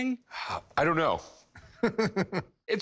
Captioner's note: chuckles